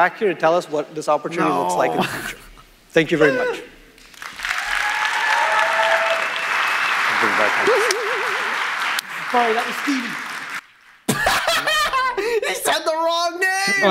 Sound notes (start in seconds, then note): 4.0 audience applauding; 11.1 laughing in lack of planning